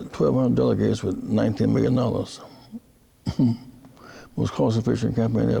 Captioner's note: laughing